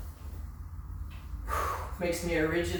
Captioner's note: exhaling